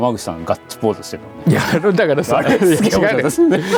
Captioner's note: laughs